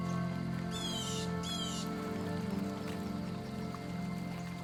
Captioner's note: bird caws